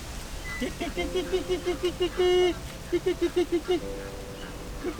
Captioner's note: calling ducks